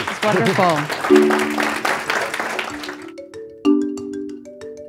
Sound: applause

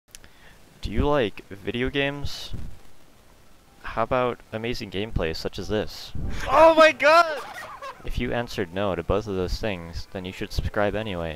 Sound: intelligible monkey noises

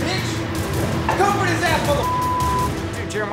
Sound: beep

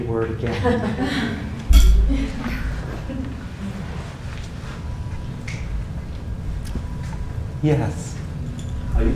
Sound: laugh

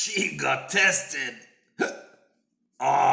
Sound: hiccup

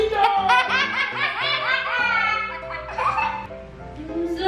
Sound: laughing

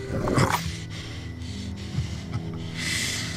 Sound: growling

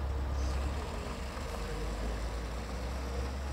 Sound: sound of car pulling away

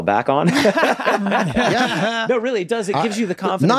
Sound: everyone laughs

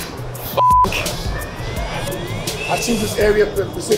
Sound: beep

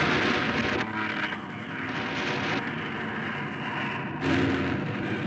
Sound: machine gun sounds; sound of plane nose-diving

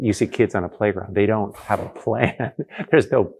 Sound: laughs

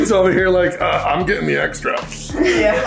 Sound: in heavy voice

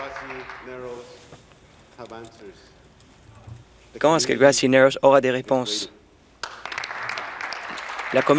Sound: some Applause; some Applause

